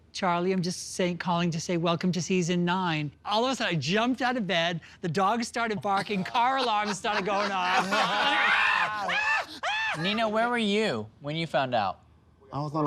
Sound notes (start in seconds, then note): 8.2 shouting